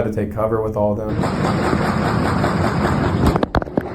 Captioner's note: gun fires